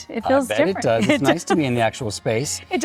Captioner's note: laughing